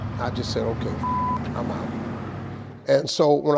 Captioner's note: beep